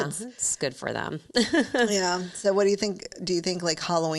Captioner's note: chuckling